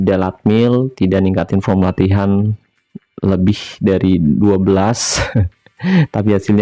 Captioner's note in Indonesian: tertawa